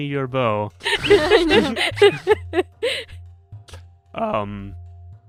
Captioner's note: laughter